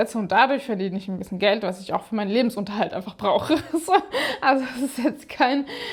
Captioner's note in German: gelächter